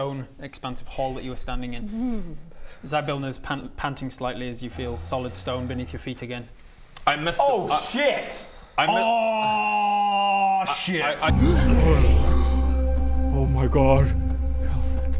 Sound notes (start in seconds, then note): 11.3 hrgh